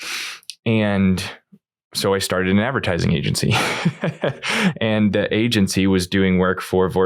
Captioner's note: laughs